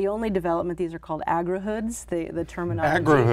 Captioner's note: chuckling